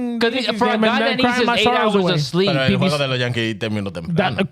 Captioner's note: speaking In Foreign Language